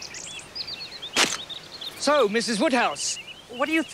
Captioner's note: camera shutters click